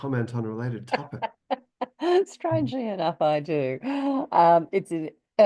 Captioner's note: laughs